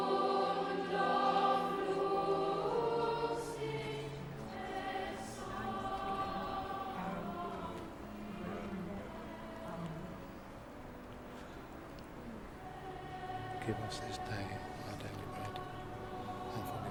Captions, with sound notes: (people praying) - Give us this day our daily bread,